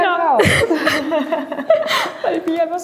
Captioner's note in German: Lachen